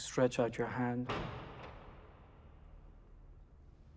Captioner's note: door rattles